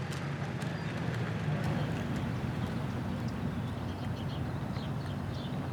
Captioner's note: birds chirping